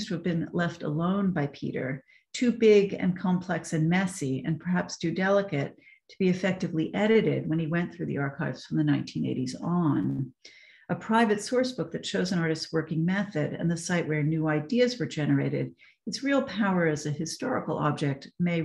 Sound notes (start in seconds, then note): none